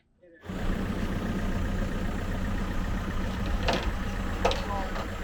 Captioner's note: engine rumbling